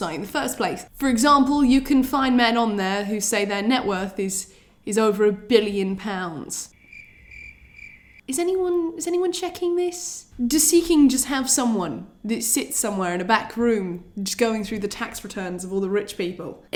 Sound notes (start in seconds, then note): 6.6 crickets chirp awkwardly